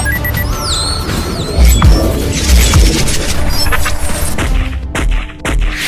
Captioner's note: weapon system beeping; bazooka firing